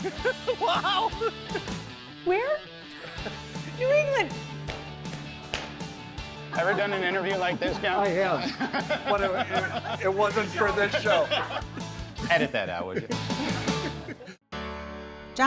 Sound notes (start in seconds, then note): 0.0 cackling; 4.6 stomping